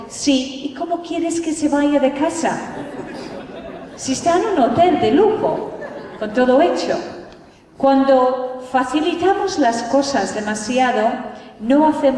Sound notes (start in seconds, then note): 2.6 laughter